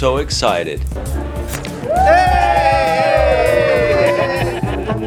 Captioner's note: cheering